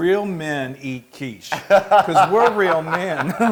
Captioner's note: laugh